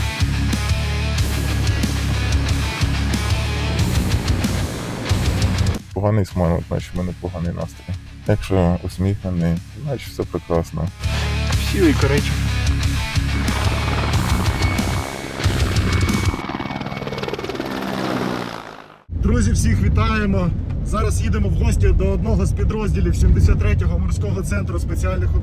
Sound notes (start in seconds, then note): 0.0 dynamic music is playing; 9.2 dynamic music is playing; 9.2 sound of helicopter; 10.8 dynamic music is playing